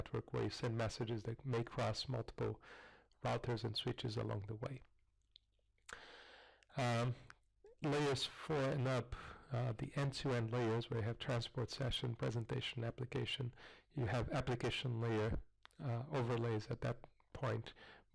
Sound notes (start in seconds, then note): 4.8 pause